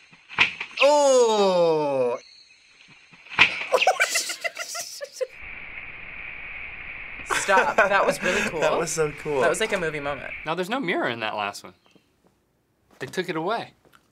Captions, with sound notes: (whack) - Oh! (whack) - (tittering) - Stop. That was really cool. - That was so cool. - That was like a movie moment. - Now, there's no mirror in that last one. They took it away.